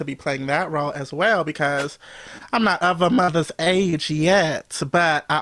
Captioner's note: whoosh